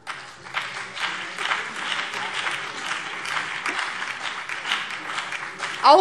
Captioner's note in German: Beifall BÜNDNIS 90/DIE GRÜNEN und DIE LINKE